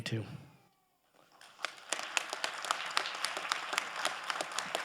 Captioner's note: crowd applauding